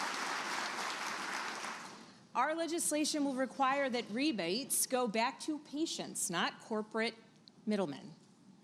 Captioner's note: applause